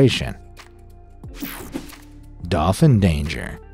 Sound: logo whooshing

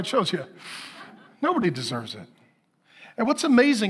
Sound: congregation laughing

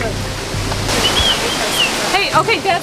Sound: whistles

